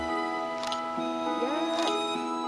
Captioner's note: light soaring music; camera shutter clicks